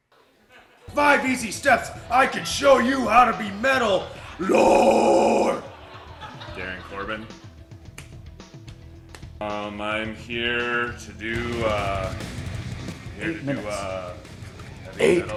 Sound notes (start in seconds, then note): 4.4 growling